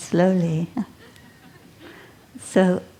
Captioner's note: laughter